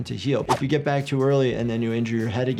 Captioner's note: wind whipping